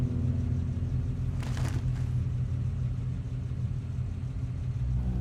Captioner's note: trash crinkling